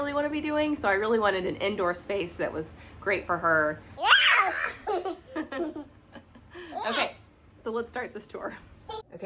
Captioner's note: more giggling